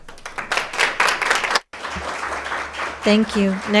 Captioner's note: audience applauding